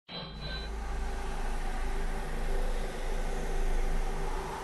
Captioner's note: wind sound in background